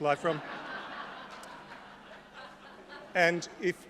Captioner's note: laughter